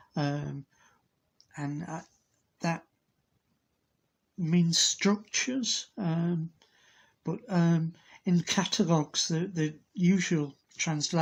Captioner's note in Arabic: باللغة الإنجليزية